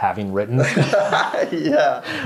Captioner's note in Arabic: يضحكون